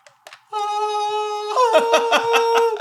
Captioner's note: laughing